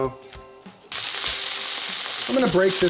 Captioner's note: meat sizzling